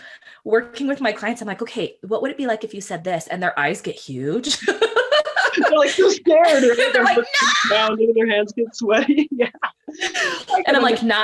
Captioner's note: laughing